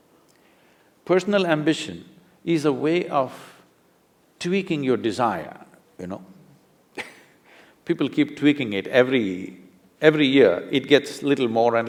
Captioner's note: laughs